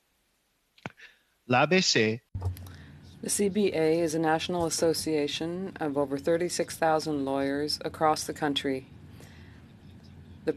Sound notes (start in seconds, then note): 6.3 speaking French